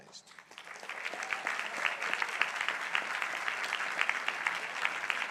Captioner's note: crowd applauding